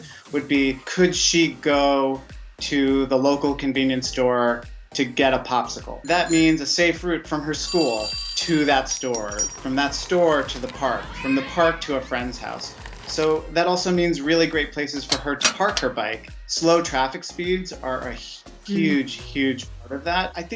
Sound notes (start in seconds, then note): 6.0 bell ringing; 6.0 bell chiming; 15.0 metal clanking